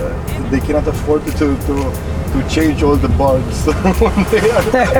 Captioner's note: laughs